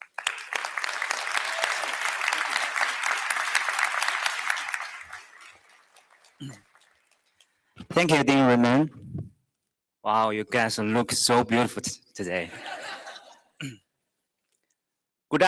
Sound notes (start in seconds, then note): 0.0 applause; 12.4 laughter